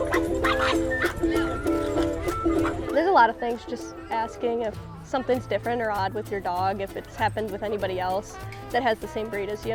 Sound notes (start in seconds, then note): 0.2 bright upbeat music continues; 2.5 dogs barking